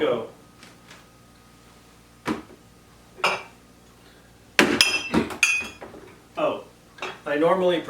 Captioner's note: bottles clanking